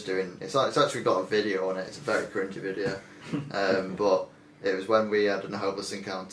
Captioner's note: laughing